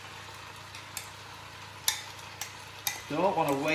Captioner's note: sizzling and scraping